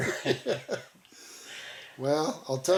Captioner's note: both laughing